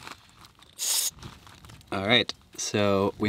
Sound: tire air hissing

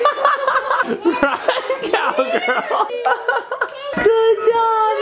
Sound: laughs

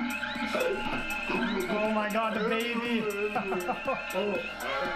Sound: laughter

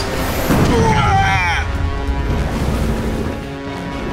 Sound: explosion

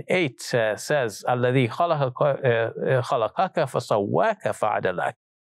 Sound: speaks in Arabic

